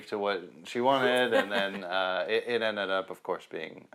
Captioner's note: laughs